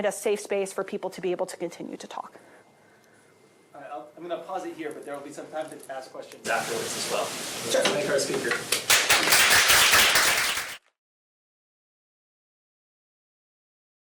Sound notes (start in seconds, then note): 8.8 applause